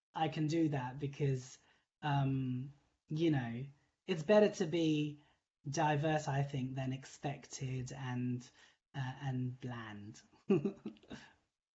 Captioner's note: laughing